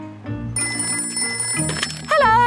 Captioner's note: ringing